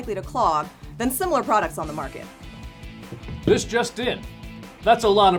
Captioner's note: Cronkite accent